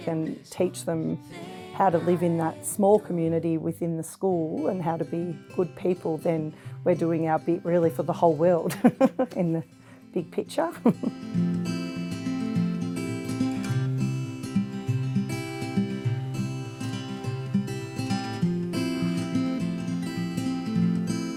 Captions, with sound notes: And if we can teach them how to live in that small community within the school and how to be good people, then we are doing our bit really for the whole world. (chuckles) In the big picture. (chuckles) (instrumental music)